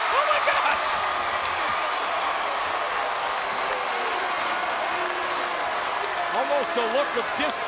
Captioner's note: applause